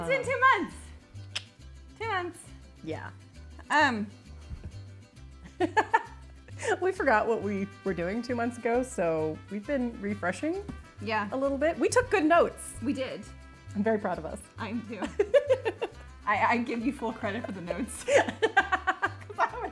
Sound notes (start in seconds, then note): 5.4 giggles; 14.9 giggles; 17.2 laughs